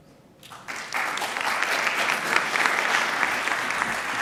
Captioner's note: audience applauding